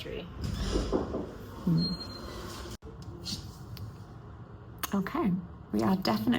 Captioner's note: nurse knocks on door